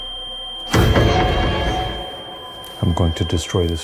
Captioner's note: device beeping